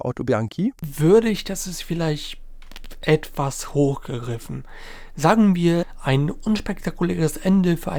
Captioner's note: hesitates